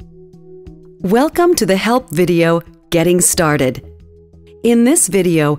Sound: voiceover

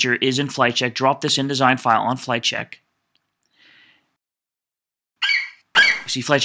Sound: FlightCheck eagle screeches

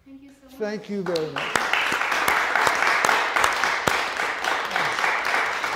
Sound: audience applauding

